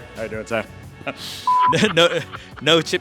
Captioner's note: inhales sharply